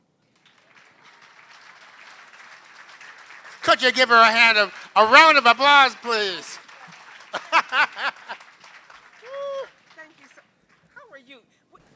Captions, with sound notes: [APPLAUSE] Could you give her a hand of-- round of applause, please [LAUGHS]. >> Thank you, sir. How are you?